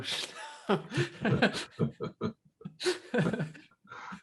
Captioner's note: both laughing